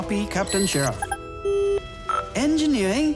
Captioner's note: CB radio mic on